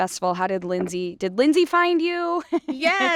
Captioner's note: laughs